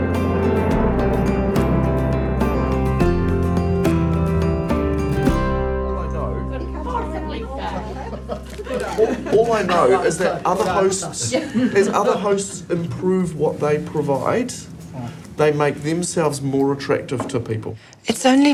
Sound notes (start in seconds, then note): 0.9 relaxed music; 7.7 general chatter